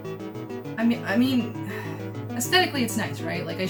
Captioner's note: sigh